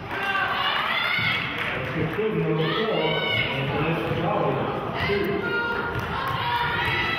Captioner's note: clapping